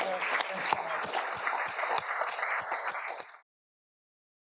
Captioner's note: audience applauding